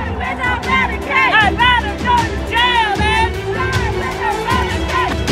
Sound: repeat chant; ominous sounding music

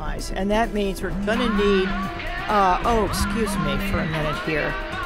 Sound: phone buzzes

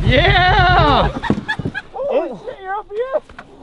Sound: laughs

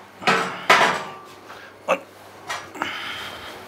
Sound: groaning

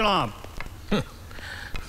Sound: scoffs

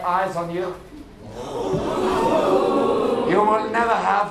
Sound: audience: intrigued ooooohs!

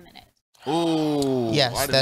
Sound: both gasps

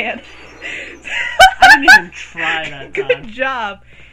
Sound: bursts out in laughter

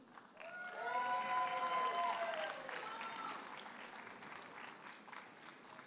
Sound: audience cheers and applauds

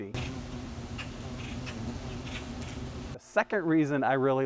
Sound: bees buzzing

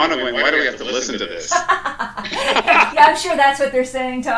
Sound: laughter

